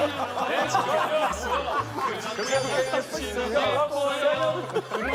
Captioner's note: laughing